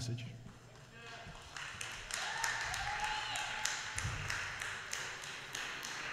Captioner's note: applause